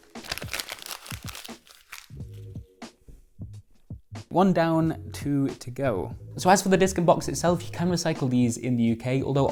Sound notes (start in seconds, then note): 0.0 paper crumpling